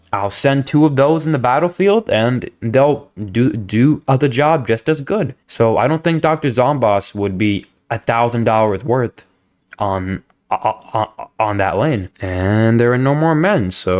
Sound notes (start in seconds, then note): 10.5 stutter Moment